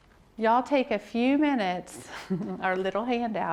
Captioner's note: laughs